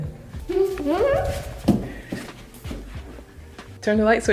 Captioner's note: giggling